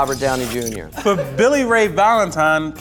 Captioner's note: laughing